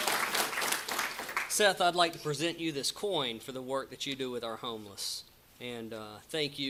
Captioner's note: applause